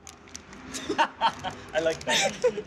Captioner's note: laughs